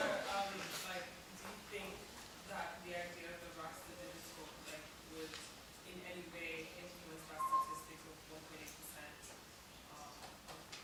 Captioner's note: away from microphone